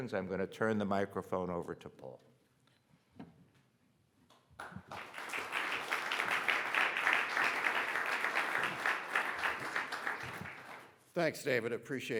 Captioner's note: audience applauding